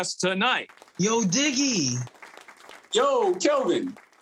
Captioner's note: audience clapping